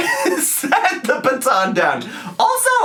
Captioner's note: laughing